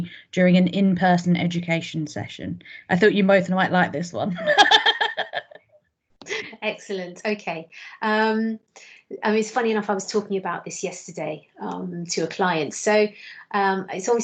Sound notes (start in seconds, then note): 4.4 laughs